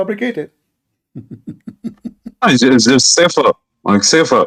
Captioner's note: Ketawa